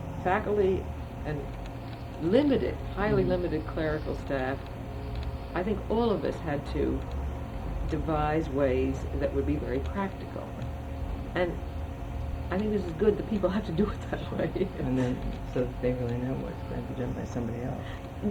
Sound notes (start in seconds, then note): 14.9 laughs